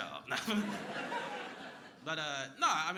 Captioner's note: crowd laughing